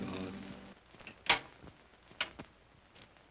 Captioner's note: door opens